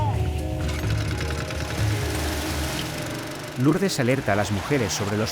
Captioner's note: speaking in foreign language; engine rumbling